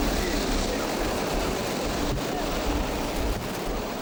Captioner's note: waves roar